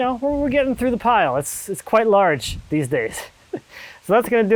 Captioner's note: laughing